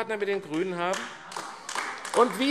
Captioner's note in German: Beifall AfD